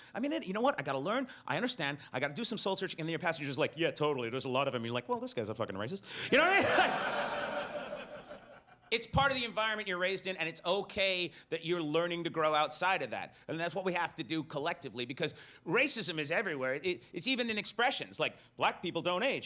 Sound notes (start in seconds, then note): 6.2 laughs; 6.3 audience laughs